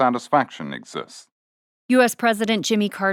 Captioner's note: archival news audio